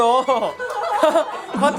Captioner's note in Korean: 헛웃음